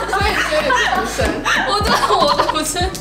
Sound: laughs happily

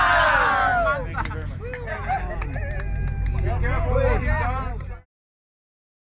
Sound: group faking laughter; group chattering incoherently

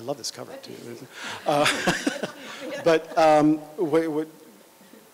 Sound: laughter

